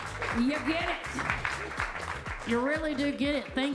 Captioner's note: attendees clapping; upbeat music